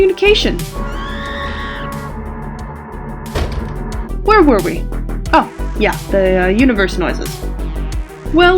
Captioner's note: distant scream; sound of large machine